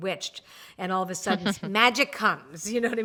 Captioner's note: giggles